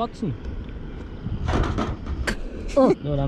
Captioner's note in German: klappern